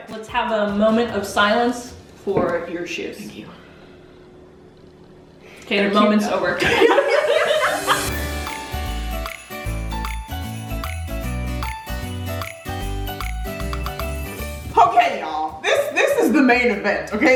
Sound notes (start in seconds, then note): 6.6 both laughing; 8.3 upbeat music